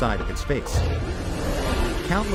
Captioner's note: monster roars